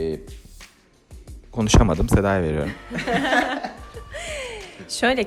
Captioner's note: laugter